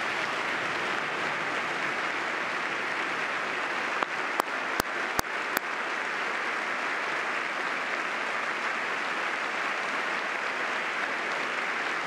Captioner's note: applause